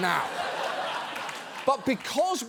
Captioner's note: audience laughs